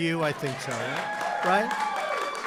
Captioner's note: applause